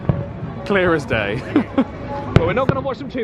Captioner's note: chuckles